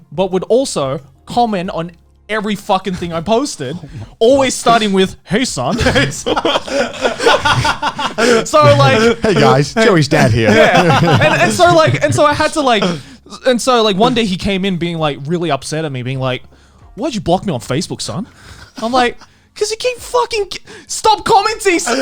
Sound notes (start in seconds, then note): 5.7 laughing loudly